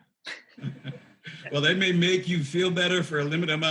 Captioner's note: chuckles